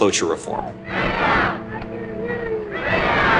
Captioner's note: soundbite of archived recording